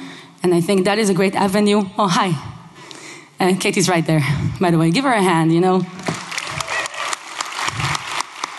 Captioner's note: applause